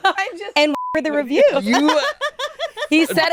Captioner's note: beep